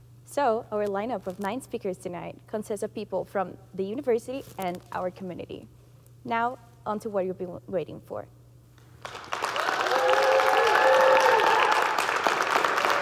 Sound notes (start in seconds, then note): 8.9 audience clapping; 9.1 audience cheering